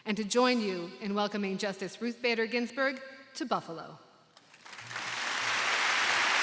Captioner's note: applause